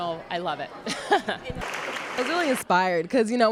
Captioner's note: laughs